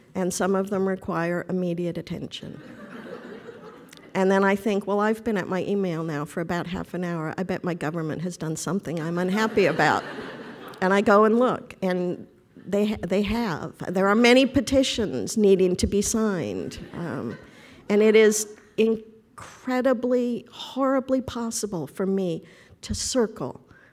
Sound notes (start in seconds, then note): 2.6 audience laughter; 9.4 laughter